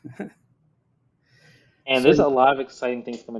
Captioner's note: chuckles